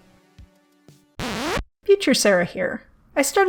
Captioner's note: record scratch